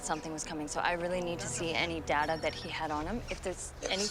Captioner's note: phone ringing